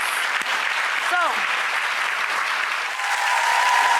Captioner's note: audience applauding